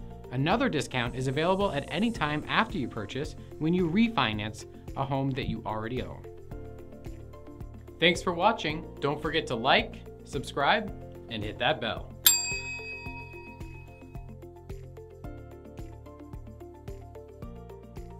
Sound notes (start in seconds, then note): 12.2 bell dings; 13.4 uplifting music